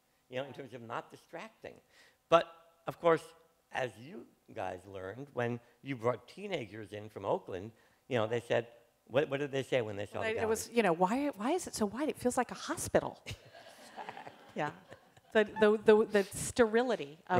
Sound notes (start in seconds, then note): 13.2 laughter